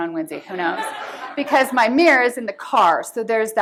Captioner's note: laughter